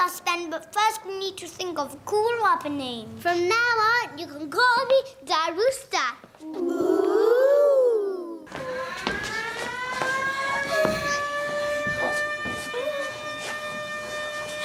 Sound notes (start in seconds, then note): 8.4 siren wailing; 10.6 whimpering